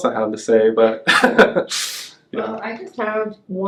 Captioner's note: laughs